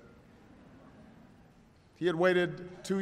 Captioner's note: laughter